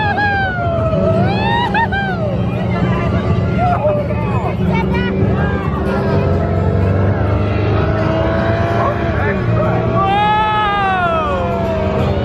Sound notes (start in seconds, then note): 0.0 engine humming; 0.0 pair howling; 6.0 engine humming